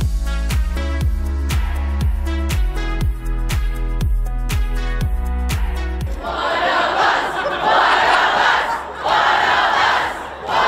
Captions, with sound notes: - [Crowd] One of us, one of us, one of us,